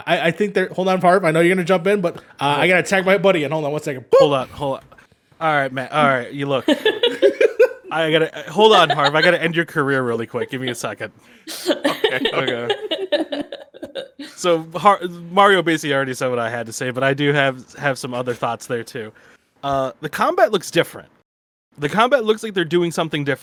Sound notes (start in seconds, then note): 6.4 laugh; 11.4 chuckles; 11.5 continues to laugh